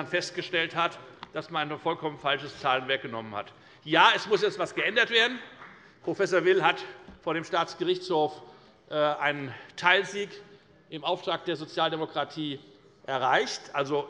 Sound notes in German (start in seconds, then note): 3.6 Beifall bei der FDP